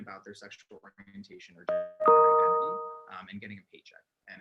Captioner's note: chime drowns out speech